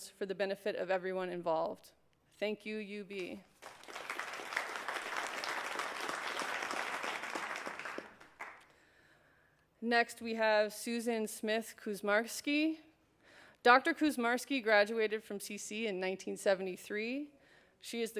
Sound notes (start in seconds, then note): 7.6 applause